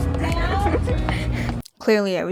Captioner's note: laughs